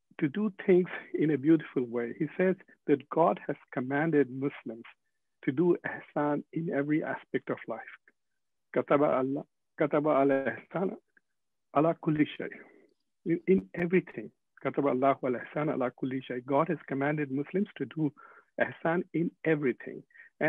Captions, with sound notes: to do things in a beautiful way." He says that "God has commanded Muslims to do ihsan in every aspect of life, (speaking foreign language) in everything [speaking foreign Language] God has commanded Muslims to do ihsan in everything,